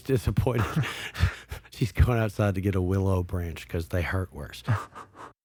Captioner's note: laughs